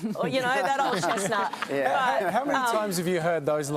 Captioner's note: laughter